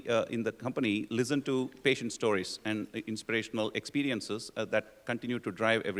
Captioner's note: none